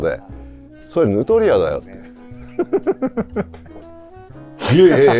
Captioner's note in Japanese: 笑い